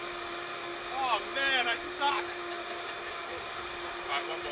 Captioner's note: laughter